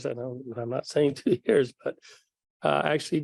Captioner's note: laughs